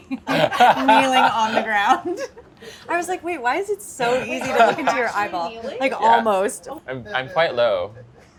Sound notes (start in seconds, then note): 1.9 laughing